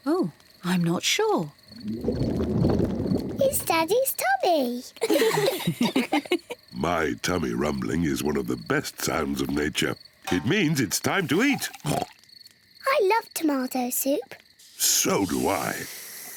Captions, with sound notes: Oh, I'm not sure. (GRUMBLING) It's Daddy's tummy! (ALL LAUGH) My tummy rumbling is one of the best sounds of nature. It means it's time to eat! (OINKS) I love tomato soup. So do I.